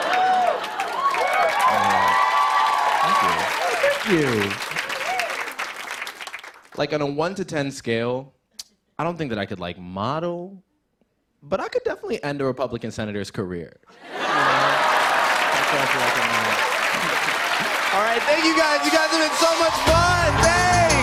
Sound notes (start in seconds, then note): 0.0 laughter; 0.0 cheers and applause; 4.3 applause; 14.1 cheers and applause